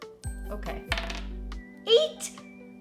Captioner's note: die clacks